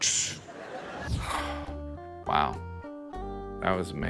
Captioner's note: audience laughs; air whooshes; sighs